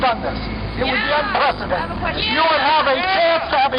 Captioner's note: voiceover